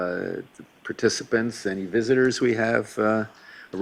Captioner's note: none